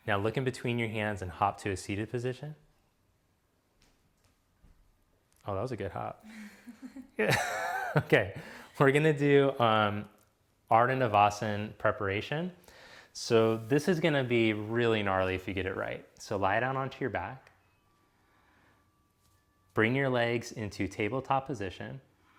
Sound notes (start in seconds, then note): 6.2 giggles; 6.3 chuckles